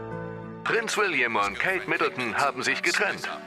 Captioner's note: voiceover